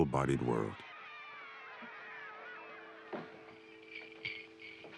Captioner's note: crowd shouting